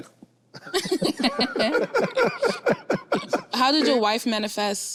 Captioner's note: group laughs